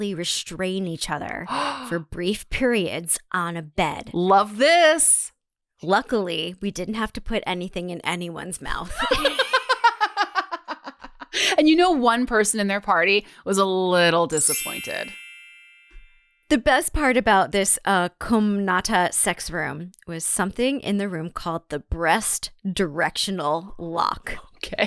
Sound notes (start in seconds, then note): 8.8 laughs; 14.4 music note chime